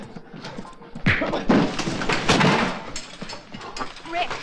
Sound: loudly grunts; loudly smacks; loudly thuds

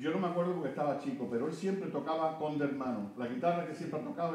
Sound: speaking Spanish

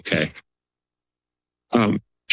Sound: silence

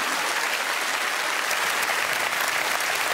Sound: audience clapping

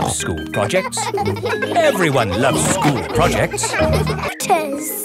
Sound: children laughing

